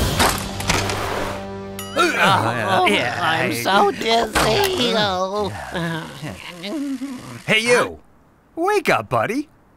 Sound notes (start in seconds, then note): 2.0 forklifts mumble confusedly